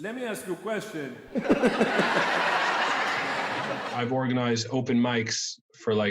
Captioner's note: audience laughter